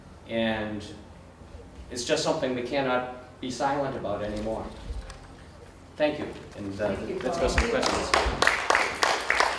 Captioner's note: applause